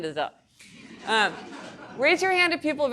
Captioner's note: audience laughing